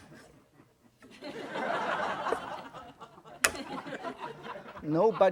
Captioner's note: audience laughing